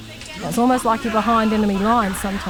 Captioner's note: woman screams